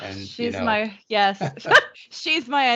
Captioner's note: laughing